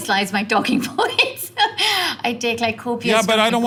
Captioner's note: laugh